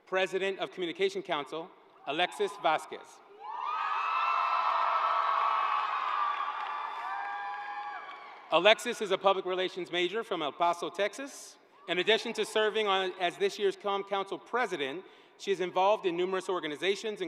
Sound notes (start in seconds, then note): 7.6 cheering